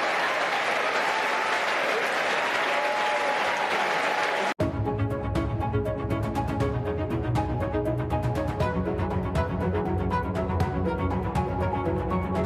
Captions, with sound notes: >> CONGRATULATIONS. YOU ARE NOW MEMBERS OF THE 118TH -- [APPLAUSE]